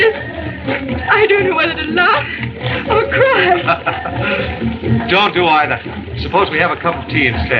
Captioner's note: laughs